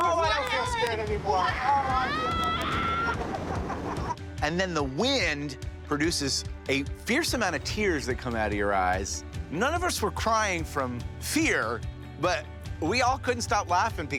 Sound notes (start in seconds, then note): 1.4 screaming